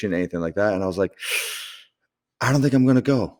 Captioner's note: sharp breath